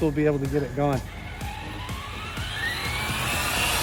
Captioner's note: wheels spinning; wheels accelerating